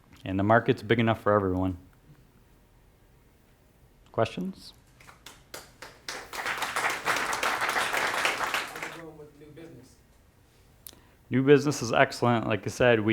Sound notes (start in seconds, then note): 5.0 clapping; 8.8 voiceover